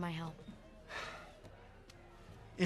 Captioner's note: sighs